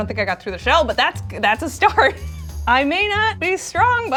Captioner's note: chuckles